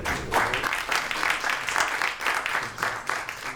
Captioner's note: applause